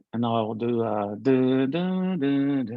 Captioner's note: hums